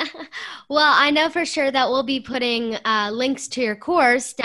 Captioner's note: laughter